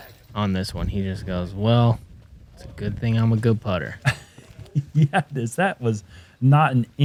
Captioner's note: laughs